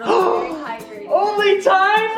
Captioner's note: gasps